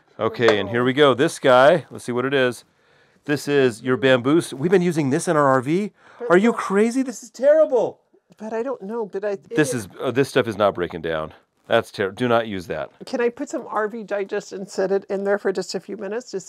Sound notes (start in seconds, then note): none